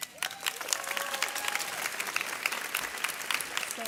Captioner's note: audience applauds